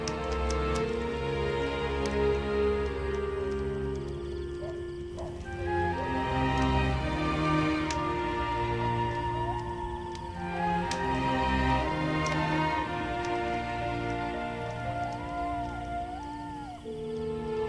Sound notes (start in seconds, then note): 0.1 soft dramatic music continues; 5.0 dog barking; 9.4 animal howling